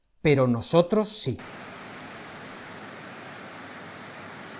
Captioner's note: applause